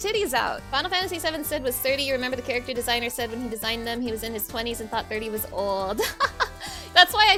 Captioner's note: laughing